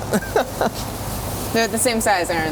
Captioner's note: laughs